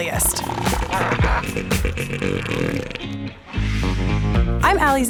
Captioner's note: elephant Seal snorting